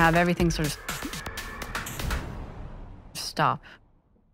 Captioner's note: dramatic whoosh